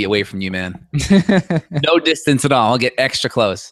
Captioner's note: laughs